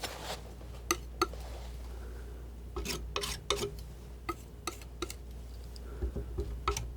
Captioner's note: tapping